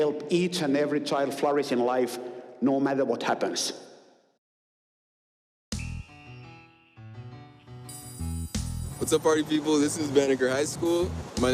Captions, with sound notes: flourish in life, no matter what happens. [whistle blows shrilly] [bell rings] What's up, party people, this is Banneker High School. My name is Jabari Courtney,